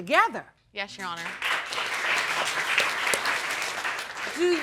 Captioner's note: audience applauds